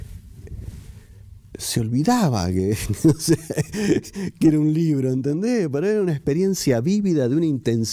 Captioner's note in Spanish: risas